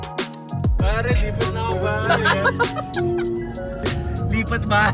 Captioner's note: laughter